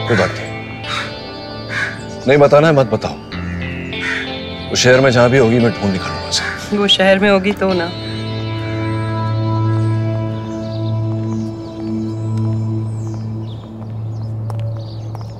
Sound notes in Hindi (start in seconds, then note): none